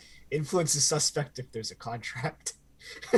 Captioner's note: giggles